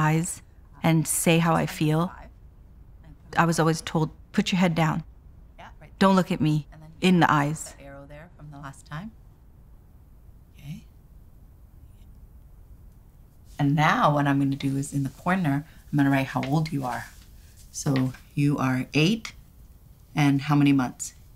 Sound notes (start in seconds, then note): none